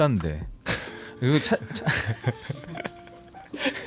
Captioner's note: laughs